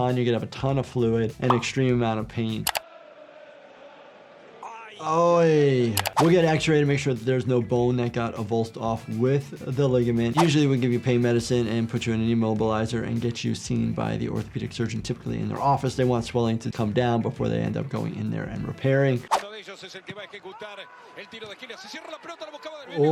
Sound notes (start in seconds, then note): 2.6 keyboard clicking; 2.8 spectators cheering; 5.9 keyboard clicking; 19.3 commentator speaking in foreign language